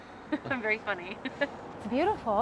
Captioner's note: laughs